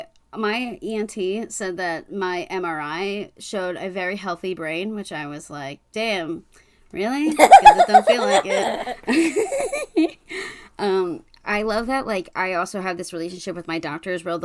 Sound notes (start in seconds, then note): 7.4 cackling; 12.3 laughs